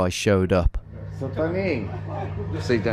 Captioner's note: man speaking in Italian